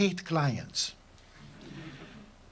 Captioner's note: laughter